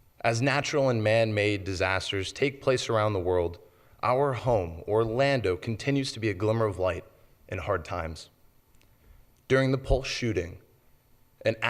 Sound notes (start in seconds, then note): none